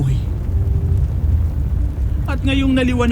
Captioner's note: fire crackling